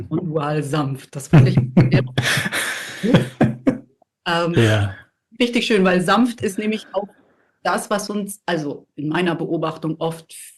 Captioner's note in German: gelächter